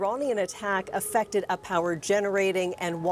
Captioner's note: sound of siren